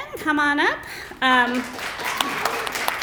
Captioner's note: applause